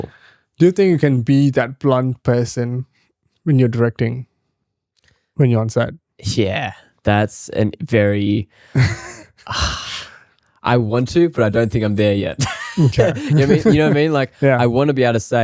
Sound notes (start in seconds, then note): 12.4 laughs